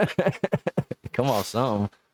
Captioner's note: laughing